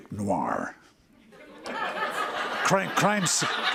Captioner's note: laughter